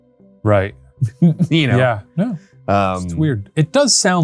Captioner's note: chuckles